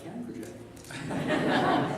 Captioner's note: laughter